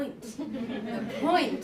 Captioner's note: laughter